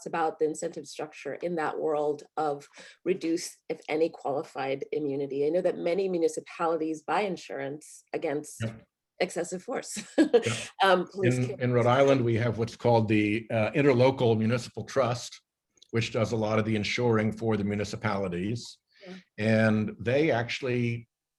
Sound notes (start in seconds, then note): 9.8 laughs